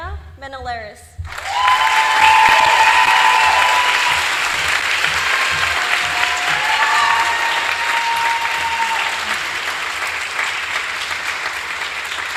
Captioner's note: applause